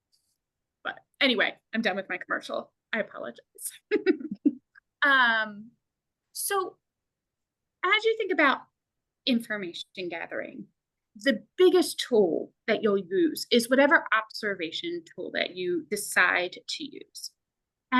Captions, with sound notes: But anyway, I'm done with my commercial. I apologize. (chuckles) So as you think about information gathering, the biggest tool that you'll use is whatever observation tool that you decide to use.